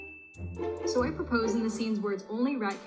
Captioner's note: narrator Speaking From Recording